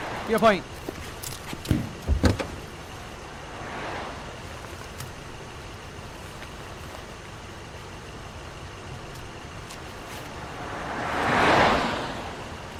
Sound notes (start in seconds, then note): 1.6 car door opening; 10.3 car passing